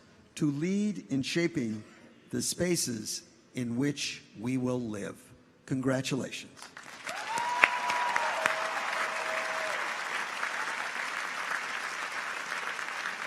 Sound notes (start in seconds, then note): 6.7 audience applauds; 7.0 people cheer